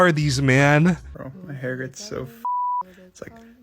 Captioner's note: beeps